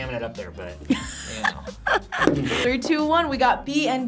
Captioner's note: React laughs